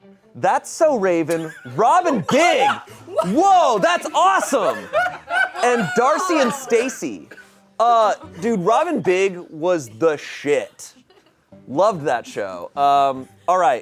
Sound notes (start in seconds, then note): 4.4 audience laughing